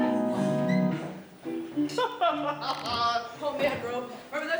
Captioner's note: Hearty laughs from TAKA and MONDO